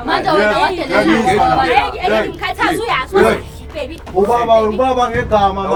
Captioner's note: arguining